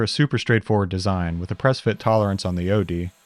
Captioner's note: drill whirring